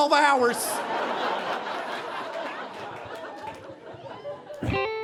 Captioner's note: audience laughing